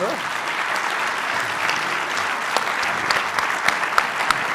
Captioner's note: applause